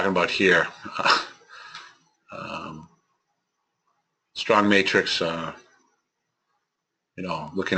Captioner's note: laugh